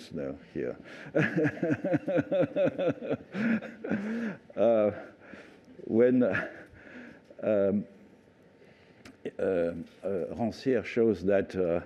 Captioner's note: laughter